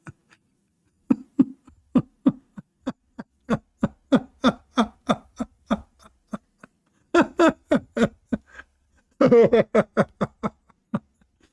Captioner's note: Ketawa